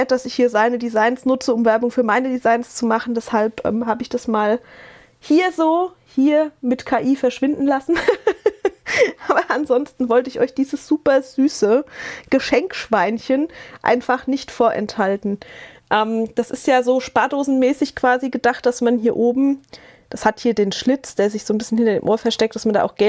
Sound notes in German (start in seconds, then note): 7.9 gelächter